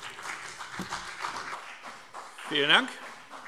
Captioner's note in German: Beifall BÜNDNIS 90/DIE GRÜNEN und CDU